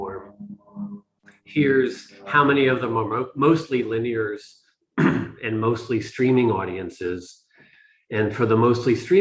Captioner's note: cough